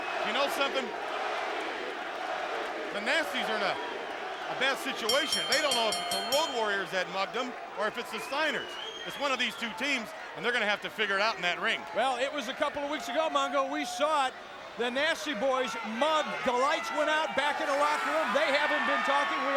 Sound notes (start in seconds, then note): 0.0 crowd cheering; 5.0 bell dinging